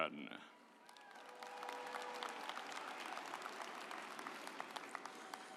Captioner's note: audience applauds